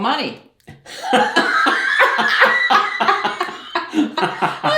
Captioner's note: laughing